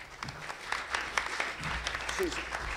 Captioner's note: applause